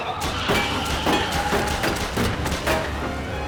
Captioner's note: gun blasts